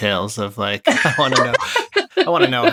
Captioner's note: laughter